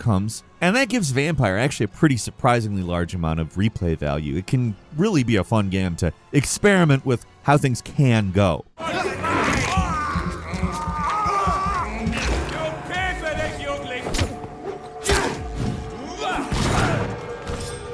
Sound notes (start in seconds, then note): 8.8 characters grunting; 16.0 characters grunting